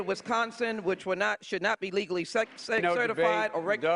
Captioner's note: applause